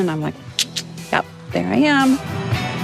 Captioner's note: sucks teeth